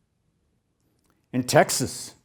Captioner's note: none